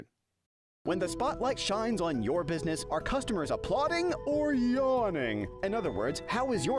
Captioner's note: voiceover